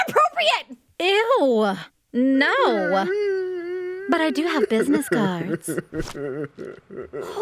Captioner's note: Rom cries in the background